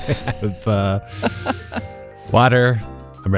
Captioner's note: laughter